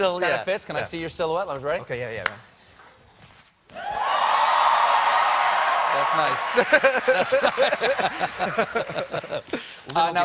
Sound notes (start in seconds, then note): 3.8 cheers and applause